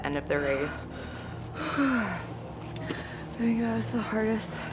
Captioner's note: heaving